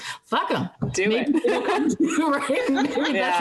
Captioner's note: laughing